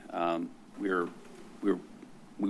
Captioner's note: stuttering